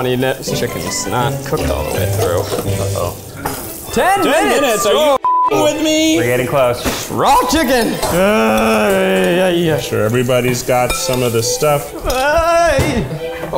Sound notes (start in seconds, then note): 5.2 beep; 8.0 groans; 12.0 groans